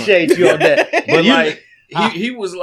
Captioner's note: laughing